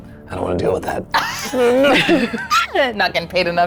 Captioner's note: laughs